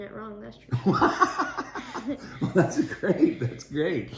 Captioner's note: laughing